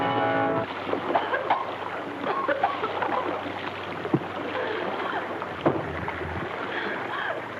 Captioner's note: dramatic music; water splashes; coughs